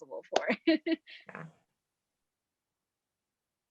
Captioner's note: laughs